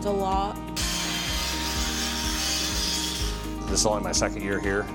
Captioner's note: grinder whirring